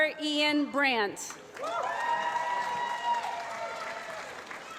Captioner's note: applause